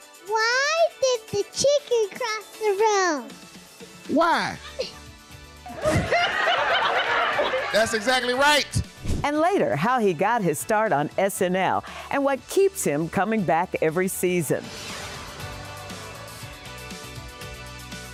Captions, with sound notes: - Why did the chicken cross the road? - Why? [laughing] That's exactly right. - And later, how he got his start on SNL and what keeps him coming back every season.